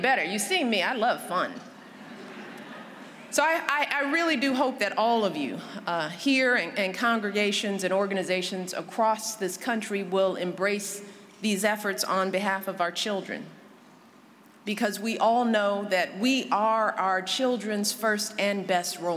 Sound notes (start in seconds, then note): 1.8 laughter